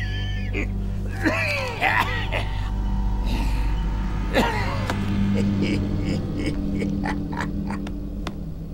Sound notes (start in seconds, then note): 1.0 coughing